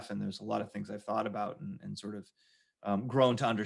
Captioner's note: none